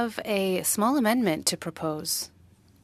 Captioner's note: speaking French